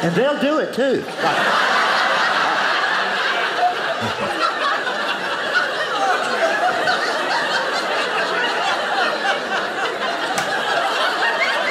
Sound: audience laughing

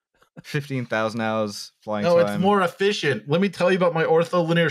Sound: 'Actually' guy voice

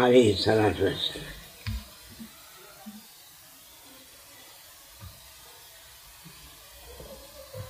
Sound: saws

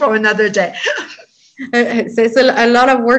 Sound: laughs

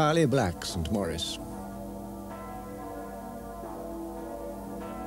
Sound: church bells ringing

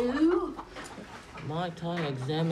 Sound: chickens clucking

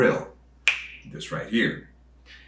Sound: fingers snapping

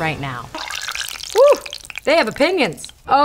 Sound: bubbling

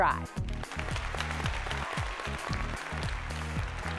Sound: audience clapping; light music

